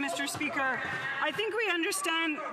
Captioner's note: some Applause